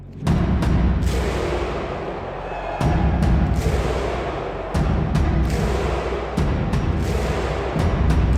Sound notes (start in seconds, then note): 2.6 crowd cheering